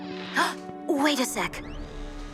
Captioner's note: Mischa gasps